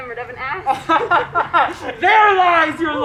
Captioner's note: laughs